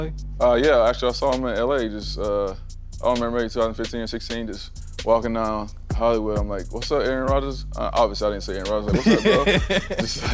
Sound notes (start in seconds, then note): 8.8 laughing